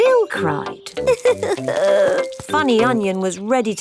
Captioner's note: crying